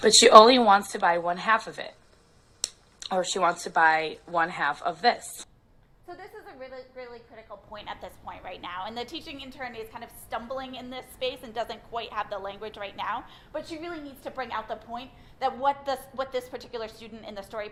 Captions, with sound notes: She only wants to buy one half of it or she wants to buy one half of this. - [Voiceover] So this is a really, really critical point at this point right now, and the teaching intern is kind of stumbling in this phase and doesn't quite have the language right now, but she really needs to bring out the point that what this particular student in the story